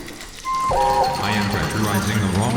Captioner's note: dee-bloop